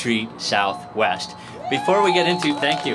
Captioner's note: applause